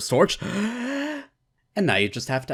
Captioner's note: inhale